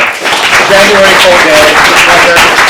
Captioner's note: audience applauds